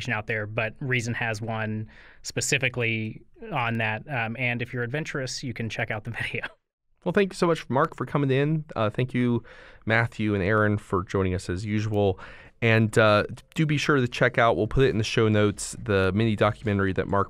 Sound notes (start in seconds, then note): 6.2 chuckle